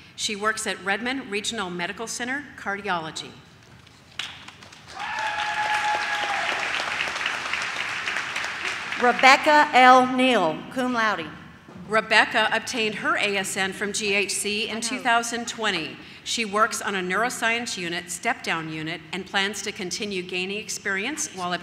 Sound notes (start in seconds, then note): 4.9 audience cheers